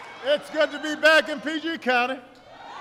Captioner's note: applause